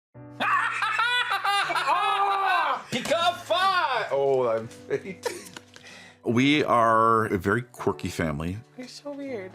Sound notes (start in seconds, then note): 0.4 laughter